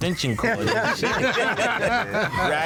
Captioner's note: laughter